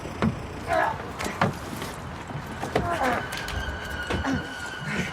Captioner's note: straining; panting, gasping